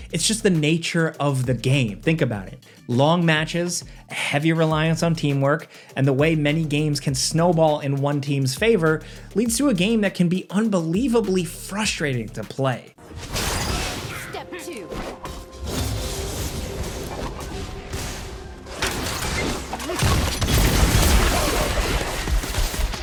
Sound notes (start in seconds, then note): 15.5 fireballs whooshing; 19.8 fireballs banging